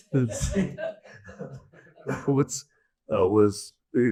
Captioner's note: audience laughs